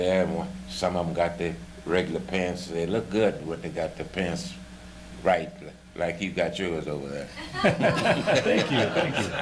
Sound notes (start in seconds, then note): 7.4 laughter